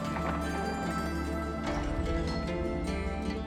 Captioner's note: door clanks